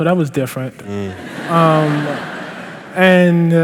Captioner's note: laughter